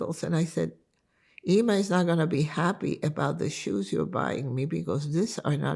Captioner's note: hebrew